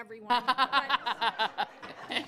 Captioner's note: people laughing